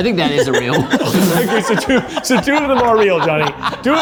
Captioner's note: all laughing